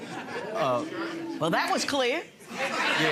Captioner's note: audience laughing